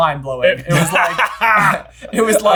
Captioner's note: laughing